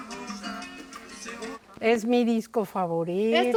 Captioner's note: speaking Spanish